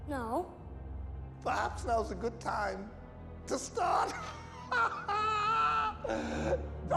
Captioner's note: laughs